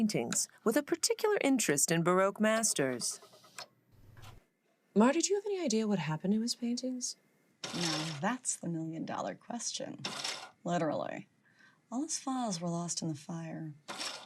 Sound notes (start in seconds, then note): 10.1 microfiche screeching